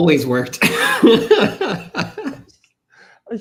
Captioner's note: laughs